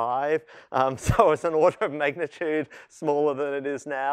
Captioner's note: laughter